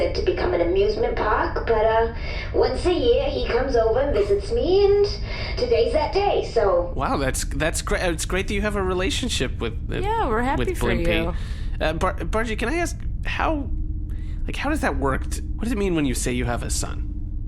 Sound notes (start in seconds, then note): 11.8 hesitantly